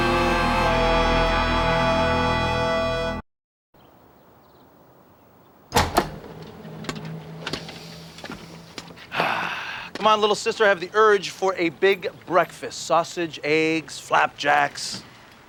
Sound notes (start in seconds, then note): 7.0 takes deep breat; 9.0 exhale